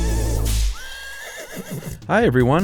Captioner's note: horse whinnies; whip cracks